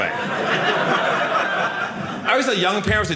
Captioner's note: audience laughing